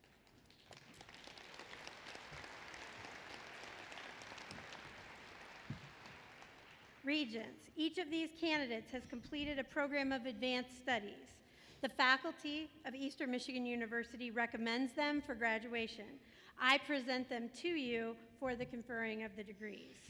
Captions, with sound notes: [APPLAUSE] Regents, each of these candidates has completed a program of Advanced Studies, the faculty of Eastern Michigan University recommends them for graduation. I present them to you for the conferring of the degrees.